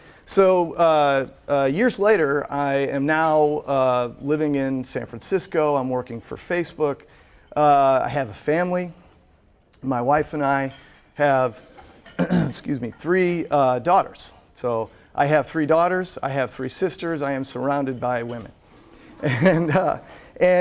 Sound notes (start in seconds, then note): 12.1 coughs; 19.2 laughs